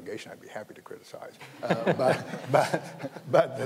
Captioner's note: audience laughing